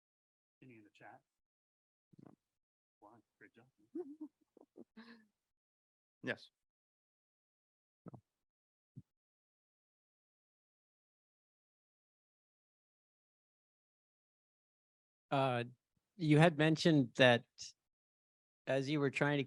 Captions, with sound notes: Any in the chat? No. Wow, good job. [CHUCKLES] Yes? You had mentioned that as you were trying